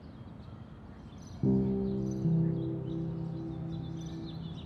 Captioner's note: bird chirping, Brooklyn street sounds